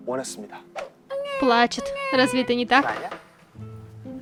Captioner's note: crying